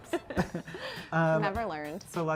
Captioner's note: both laughing